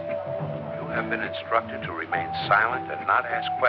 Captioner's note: man on intercom